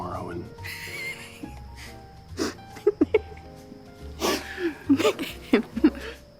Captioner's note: laughing